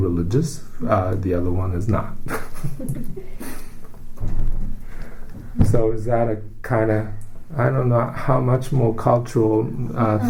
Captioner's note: all laugh